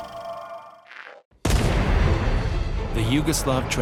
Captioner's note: gunfire